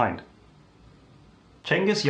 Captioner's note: beat